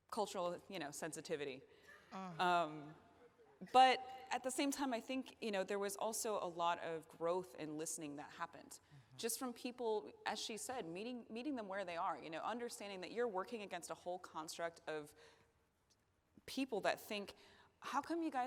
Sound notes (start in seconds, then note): none